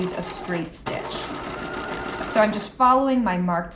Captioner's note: sewing machine whirling